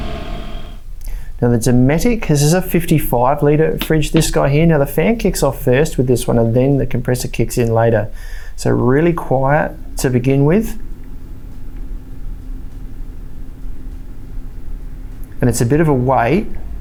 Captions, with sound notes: Now, the Dometic, cause this is a 55 litre fridge this guy here. Now, the fan kicks off first with this one then the compressor kicks in later. So, really quiet to being with. (fan drones) And it's a bit of a wait